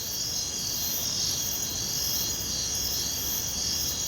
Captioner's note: crickets chirping